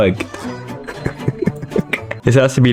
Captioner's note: laughs to myself